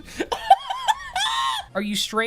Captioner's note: laughing